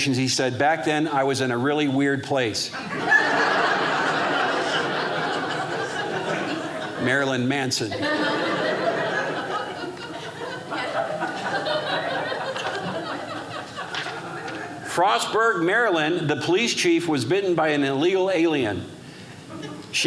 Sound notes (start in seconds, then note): 2.7 audience laughing